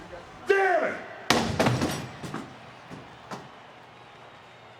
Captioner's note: chair thuds